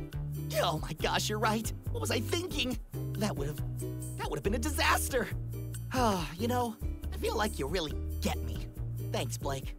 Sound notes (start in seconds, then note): 6.0 relieved sigh